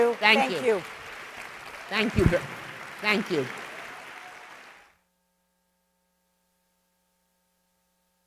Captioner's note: applause